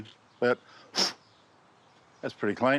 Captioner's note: blows